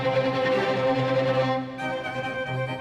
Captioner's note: none